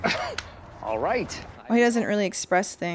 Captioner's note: laughs